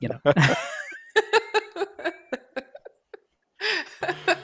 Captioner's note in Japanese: 笑い